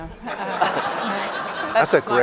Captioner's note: audience laughing